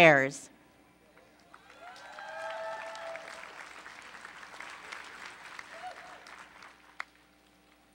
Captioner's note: applause